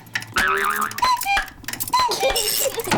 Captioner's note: clock chimes; laughs